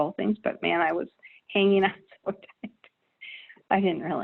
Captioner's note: laughing